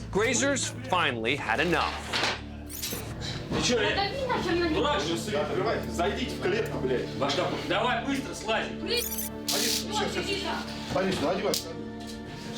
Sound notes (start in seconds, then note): none